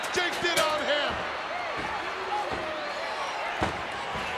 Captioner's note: crowd cheering